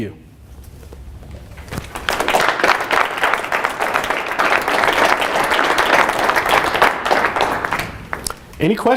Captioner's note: applause